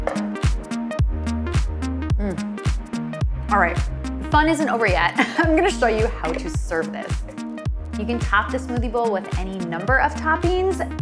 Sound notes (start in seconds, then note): 0.2 upbeat music; 5.2 chuckles